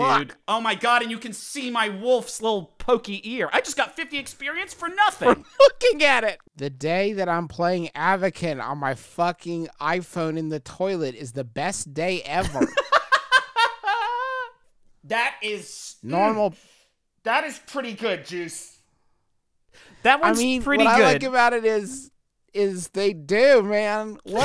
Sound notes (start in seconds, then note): 12.4 laughs